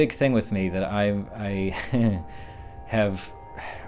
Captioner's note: laughs